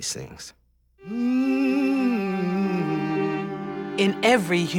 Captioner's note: woman Humming